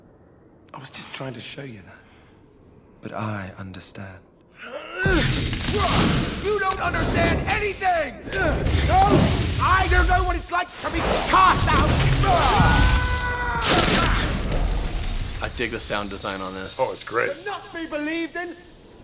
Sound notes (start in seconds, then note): 13.3 shouts; 13.6 ice cracking through the air